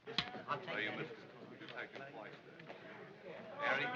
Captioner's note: men chattering